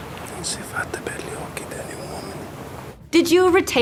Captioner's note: Arthur speaking in Italian